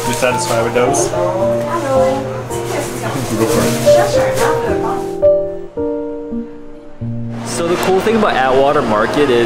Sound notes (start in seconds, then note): 2.0 customers chattering